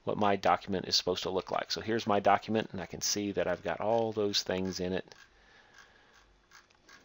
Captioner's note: scrolling